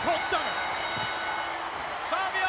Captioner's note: bell dinging